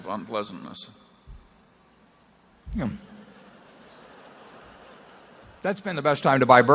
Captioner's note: laughter